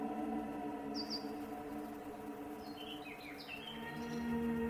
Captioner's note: birds chirping